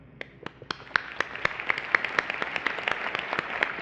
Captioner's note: applause